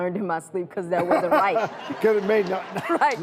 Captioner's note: laughs